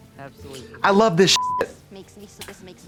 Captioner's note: beep